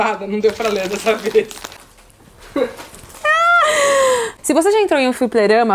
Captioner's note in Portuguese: risos